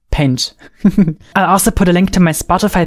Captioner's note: chuckles